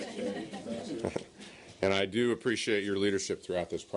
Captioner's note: laughter